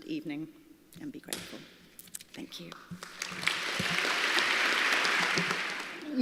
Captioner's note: applause